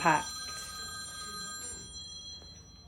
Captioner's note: phone rings